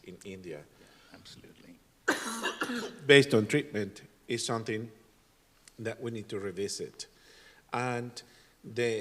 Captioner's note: cough and clears throat